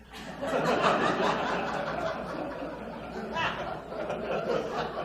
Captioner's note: audience laughs